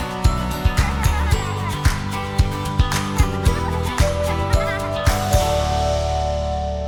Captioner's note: kids laughing; upbeat music